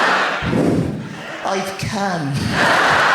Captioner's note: audience laughs; blows; audience laughs and applauds